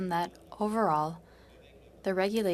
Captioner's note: speaking French